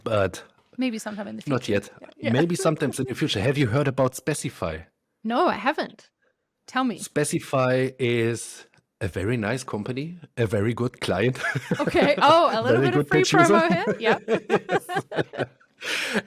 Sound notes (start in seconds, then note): 11.3 laughs; 14.2 both laugh